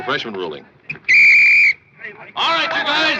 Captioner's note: whistle blows